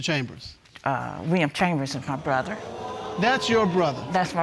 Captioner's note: audience exclaims